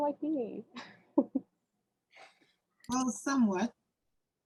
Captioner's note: laughs